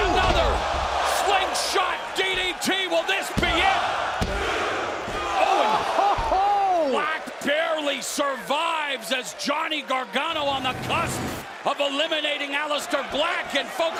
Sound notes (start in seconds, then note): 5.3 crowd cheering